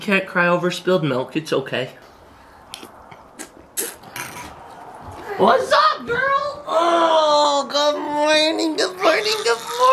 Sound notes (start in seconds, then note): 6.6 groans